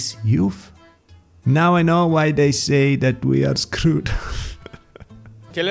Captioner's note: sigh